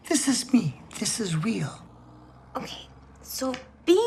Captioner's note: none